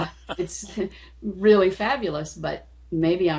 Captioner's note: man laughing